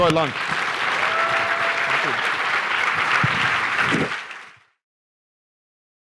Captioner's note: applause